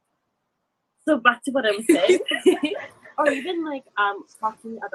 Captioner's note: laughs